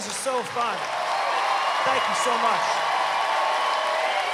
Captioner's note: cheering, applause